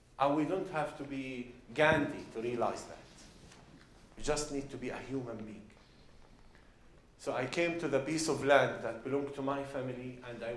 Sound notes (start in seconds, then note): none